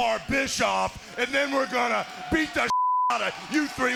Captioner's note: beep